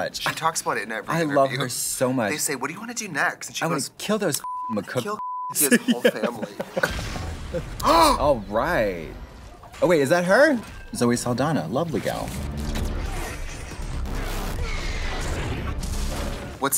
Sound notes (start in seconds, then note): 6.8 explosion; 7.7 Trixie gasps; 11.9 energy blast erupts